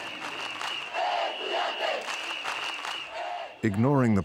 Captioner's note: chanting